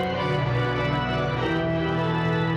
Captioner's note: none